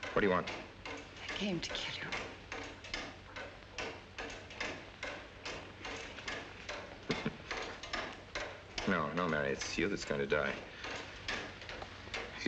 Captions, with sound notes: - What do you want? - I came to kill you. [ CHARLES CHUCKLES ] No, no, Mary, it's you that's going to die.